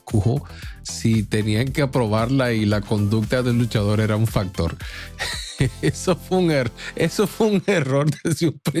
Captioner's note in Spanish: risas